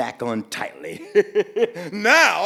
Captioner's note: Zimwi laughing